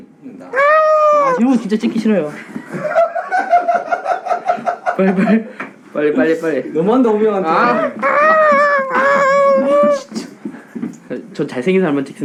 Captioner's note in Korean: 웃음